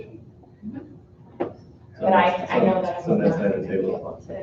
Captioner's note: group chatter